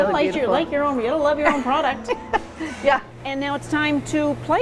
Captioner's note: laughs